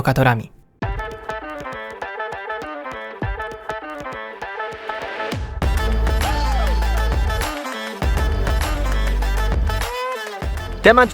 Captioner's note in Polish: Aplauz